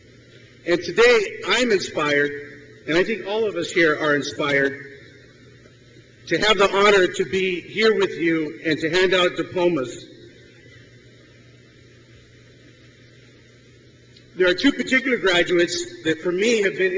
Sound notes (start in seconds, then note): none